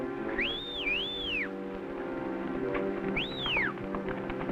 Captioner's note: whistling